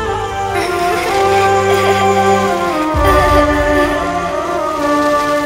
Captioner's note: Both smiling and giggling